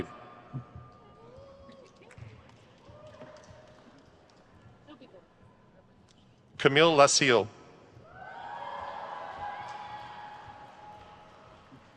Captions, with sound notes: Camille Lasseel. (crowd cheers)